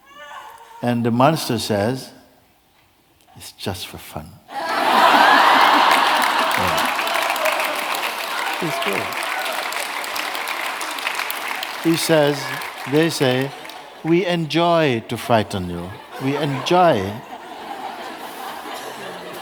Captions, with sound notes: And the monster says, 'It's just for fun!' [Laughter] [Clapping] It's true. He says, they say, 'We enjoy to frighten you. We enjoy!' [Laughter]